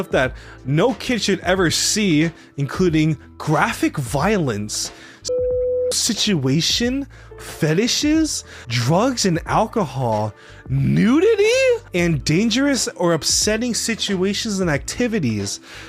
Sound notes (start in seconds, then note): 5.2 beep